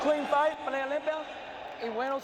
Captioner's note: speaking Spanish